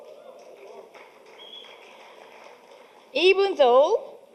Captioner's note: audience applauding